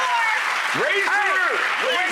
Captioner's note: applause